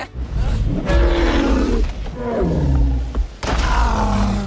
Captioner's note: roaring